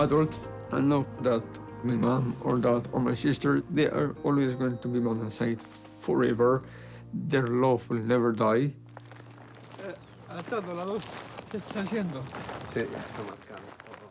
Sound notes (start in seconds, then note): 10.3 speaks spanish